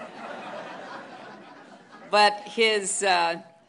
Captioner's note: laughter